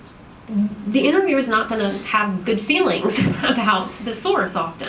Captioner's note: chuckles